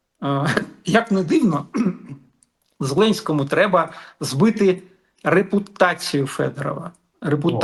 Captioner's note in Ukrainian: прочищення горла